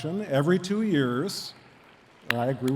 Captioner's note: attendees clapping